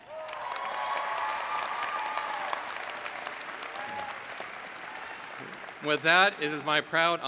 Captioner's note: cheering